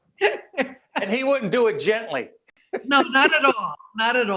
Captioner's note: laughing; laughing